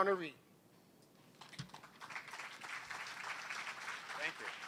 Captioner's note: applause